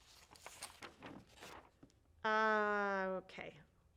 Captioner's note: papers rustling